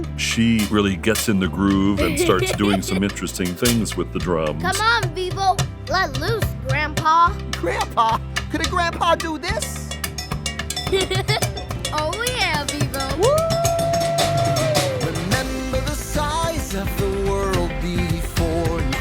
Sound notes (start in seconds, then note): 1.9 drumming continues; 2.0 Gabi laughing; 10.8 Gabi laughing